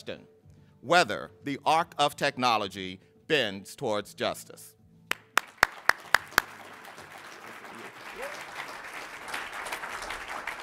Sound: applause

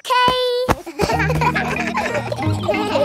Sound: kids laughing

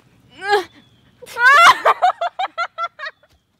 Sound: screams; laughs

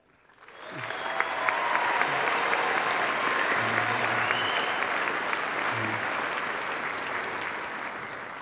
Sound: applause

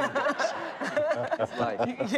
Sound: laughter

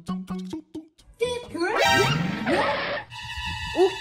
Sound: alert sound effect

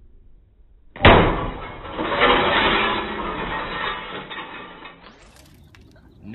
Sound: glass shatters

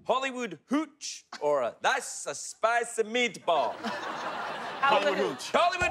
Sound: thick Italian accent

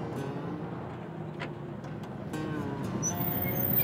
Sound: car approaching

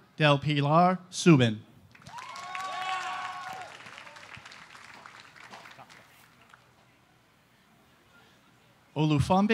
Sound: applause

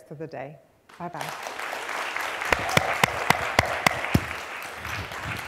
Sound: applause

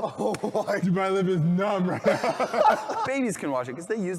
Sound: laughs

